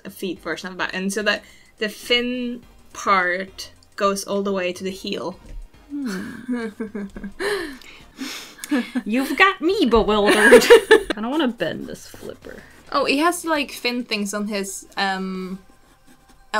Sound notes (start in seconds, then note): 7.7 lip-smacking and deep breathing in confusion; 10.3 laughs